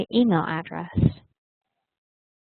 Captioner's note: Vietnamese